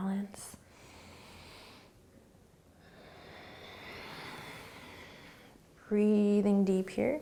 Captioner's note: breathing